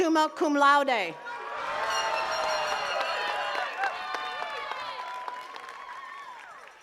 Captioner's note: attendees cheering and clapping